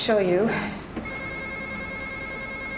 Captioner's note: telephone ringing